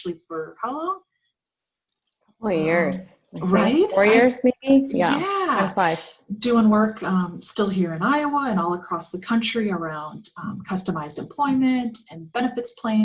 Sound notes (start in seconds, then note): 7.8 Arabic; 12.4 Vietnamese